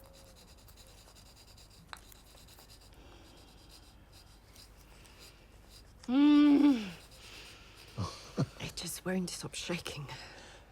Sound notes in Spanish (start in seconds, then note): 5.5 gruñidos